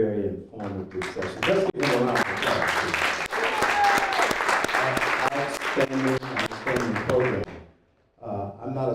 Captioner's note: applause